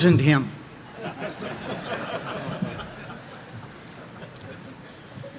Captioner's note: audience laughing